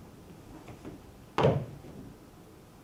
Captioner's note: stomps